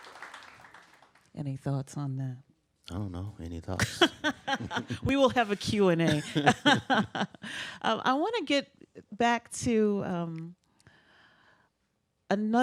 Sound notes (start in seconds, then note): 3.8 laughs